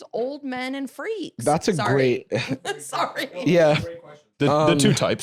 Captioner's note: laughs